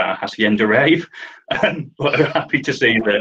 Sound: laughs

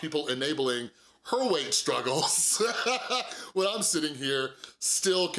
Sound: laughs

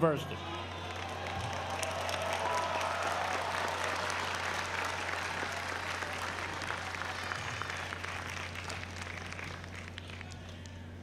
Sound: applause

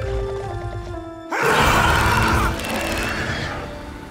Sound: shouts; snarling

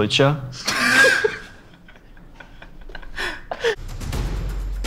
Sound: laughter; dramatic music

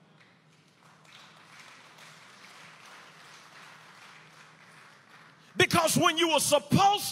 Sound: inmates applaud

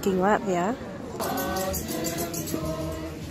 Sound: bell chimes

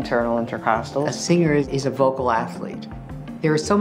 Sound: narrating

